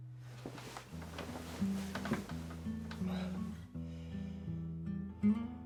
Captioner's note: none